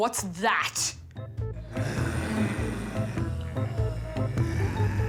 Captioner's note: all grunt and moan